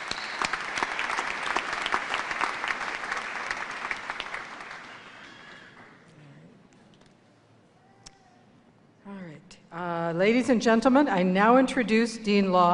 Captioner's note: applause